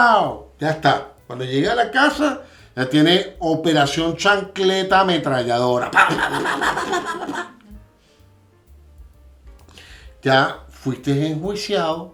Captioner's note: laughs